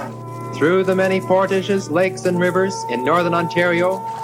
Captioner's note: men paddling walking; reflective music; ship horn